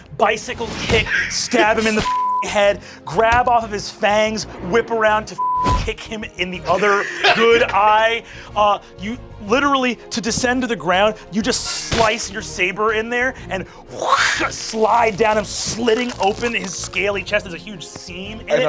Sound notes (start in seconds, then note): 2.1 beeping; 5.4 beeping; 14.2 whooshing